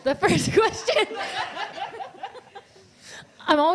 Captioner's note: laughs